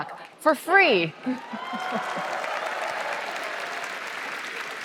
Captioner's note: applause